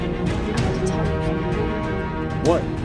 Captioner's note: faintly speaking